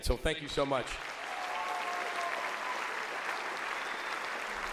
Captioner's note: audience applauds